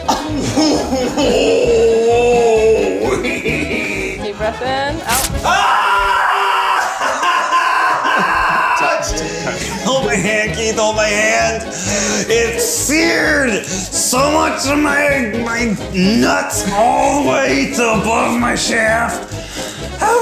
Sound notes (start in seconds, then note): 0.3 screams; 5.4 screams